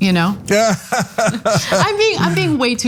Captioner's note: laugh